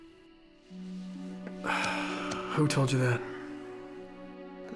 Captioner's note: sigh